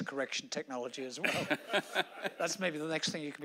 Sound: laughing

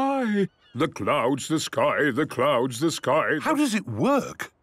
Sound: sing-sing voice

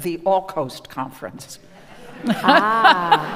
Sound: audience applauding

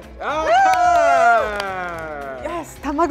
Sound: cheers

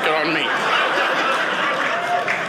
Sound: audience laughing

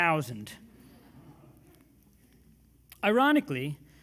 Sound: audience murmurs

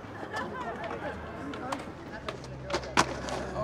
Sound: indistinct chatter

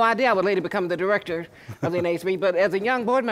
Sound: laughter

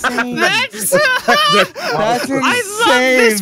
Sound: overlapping laughter

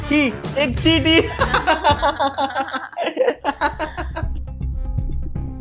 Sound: laughing

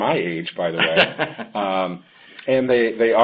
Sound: laughing

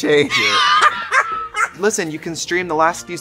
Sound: laughing

